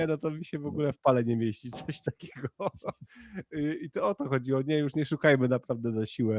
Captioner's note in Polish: śmiech